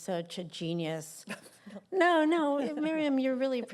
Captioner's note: laughter